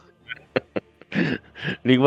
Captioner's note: laughter